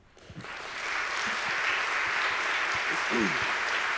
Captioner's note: applause